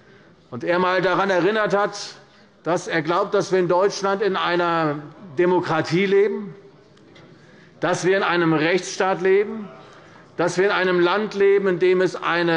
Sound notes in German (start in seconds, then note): none